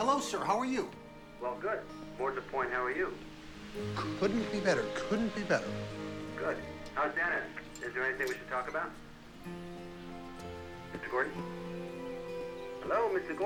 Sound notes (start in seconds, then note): 5.2 gate opening